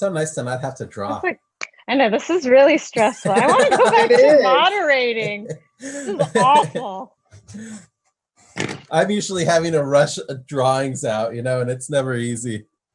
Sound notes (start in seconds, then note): 2.9 laughs